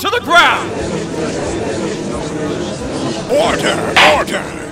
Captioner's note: gallery chattering!